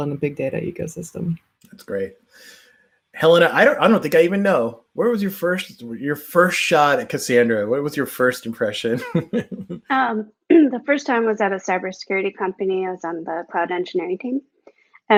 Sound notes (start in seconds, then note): 8.6 chuckles